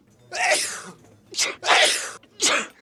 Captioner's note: sneezing